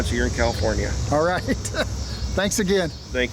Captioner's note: laughs